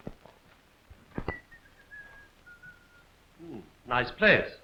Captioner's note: whistling